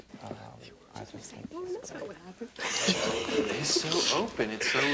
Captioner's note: laughs